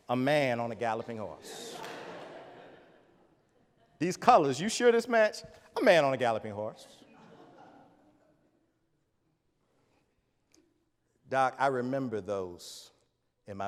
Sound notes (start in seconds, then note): 1.3 audience laughs